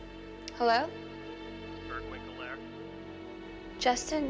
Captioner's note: on phone